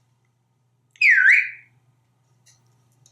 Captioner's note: whistle